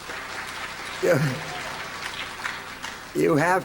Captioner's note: applause; chuckles